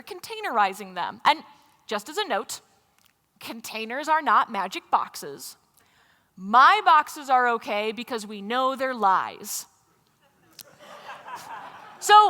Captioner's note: laughter